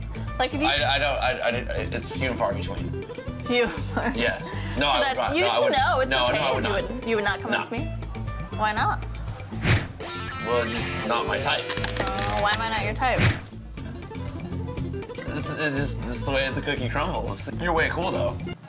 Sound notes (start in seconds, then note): 1.2 stammers; 15.3 stammers